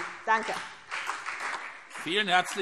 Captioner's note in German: Beifall CDU